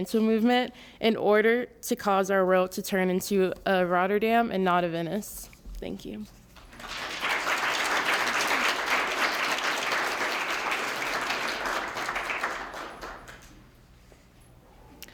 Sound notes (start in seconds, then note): 6.5 applause